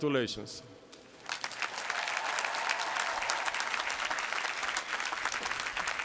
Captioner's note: applause